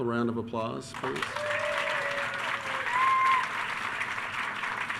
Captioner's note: attendees cheering